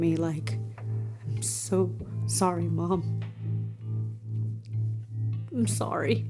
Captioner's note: voice breaking